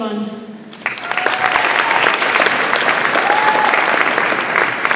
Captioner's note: audience applauds